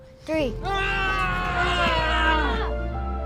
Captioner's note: both screaming